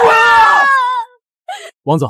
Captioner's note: cries